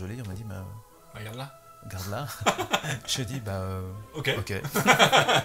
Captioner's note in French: rires